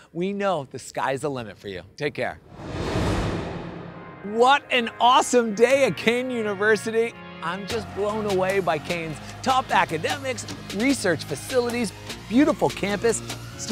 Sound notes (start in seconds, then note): 2.4 air whooshing